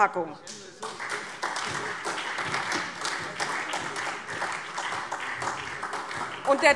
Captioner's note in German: Beifall SPD und DIE LINKE